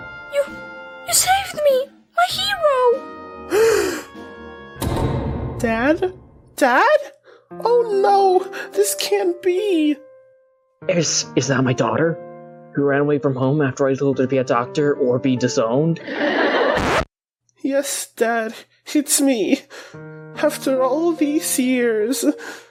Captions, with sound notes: You— you saved me! My hero! *gasp* Dad? DAD⁉ Oh no, this can't be! Is— is that my daughter who ran away from home after I told her to be a doctor or be disowned? *inappropriately timed laugh track* *record scratch* Yes dad, it's me... after all these years...